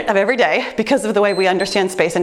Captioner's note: timer beeps